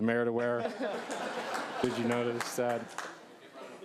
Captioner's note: applause